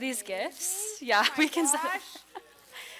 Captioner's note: laughter